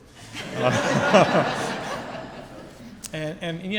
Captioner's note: audience laughs